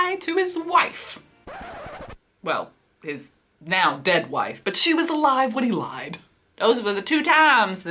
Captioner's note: record scratch